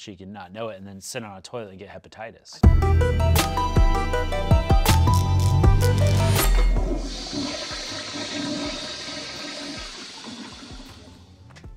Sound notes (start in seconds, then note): 2.6 upbeat music; 2.6 neon light crackling; 6.2 toilet flushing